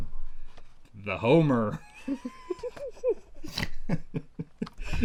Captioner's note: laughs